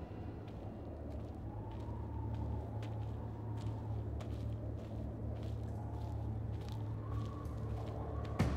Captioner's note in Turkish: Rüzgâr sesi; Ayak sesi; Müzik - Gerilim